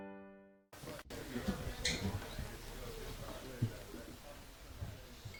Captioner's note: patrons chattering